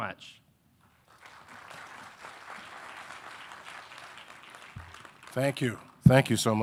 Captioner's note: audience applauding